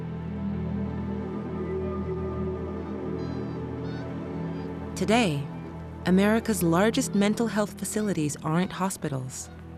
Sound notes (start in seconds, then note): 3.8 bird squawking